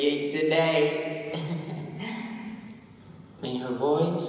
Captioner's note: soft laughter